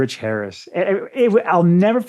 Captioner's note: stammering